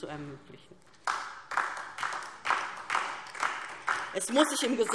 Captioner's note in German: Beifall